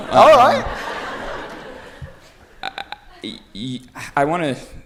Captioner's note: laughter